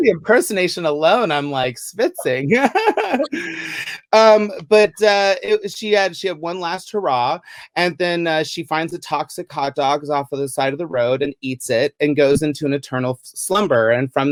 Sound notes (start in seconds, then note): 2.2 laughs